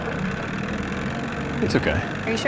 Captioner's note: engine sputters